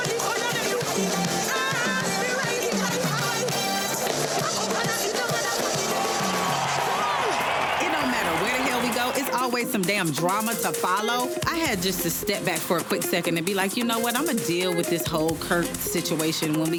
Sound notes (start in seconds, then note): 0.0 crowd cheering; 0.1 woman signing; 6.9 crowd cheering